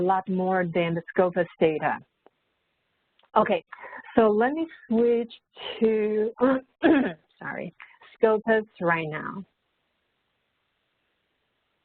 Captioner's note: coughs